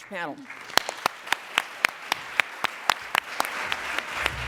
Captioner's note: applause